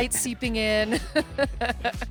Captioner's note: laughs